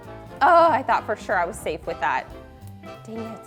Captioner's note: groans